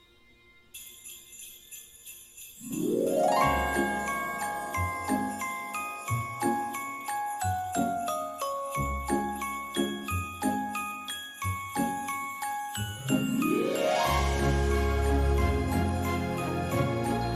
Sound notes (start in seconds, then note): 0.1 jingle bells ringing; 0.1 upbeat holiday music; 9.8 jingling continues